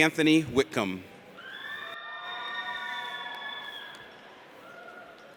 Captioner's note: audience cheers